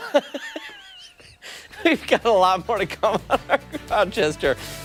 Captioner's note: laughter; laughter